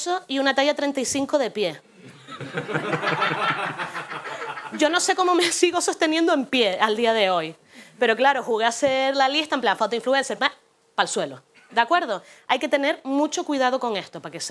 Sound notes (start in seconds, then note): 2.0 laughs; 2.0 laughter